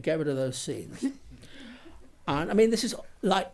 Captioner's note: laughs